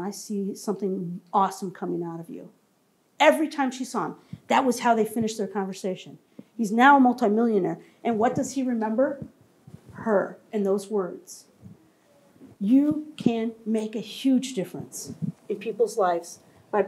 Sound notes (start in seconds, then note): none